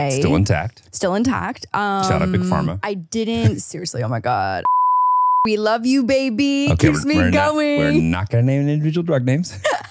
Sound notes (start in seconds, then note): 4.6 beep; 9.6 laughs